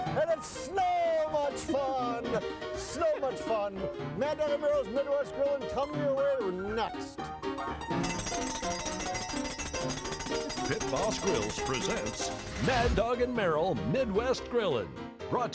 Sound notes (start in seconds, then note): 7.3 jaunty piano music continues; 8.0 bell ringing